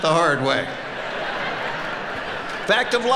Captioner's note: audience laughing